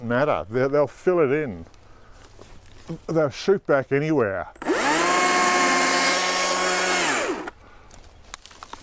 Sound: chainsaw

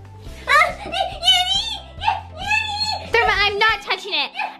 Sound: Therma yelling

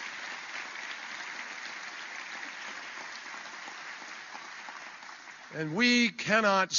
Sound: applause

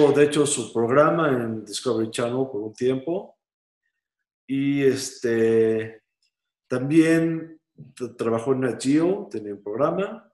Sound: spanish

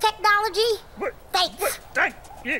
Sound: grover stammering

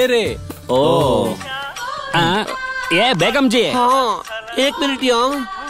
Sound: phone rings; phone rings

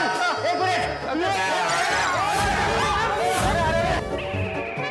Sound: screaming

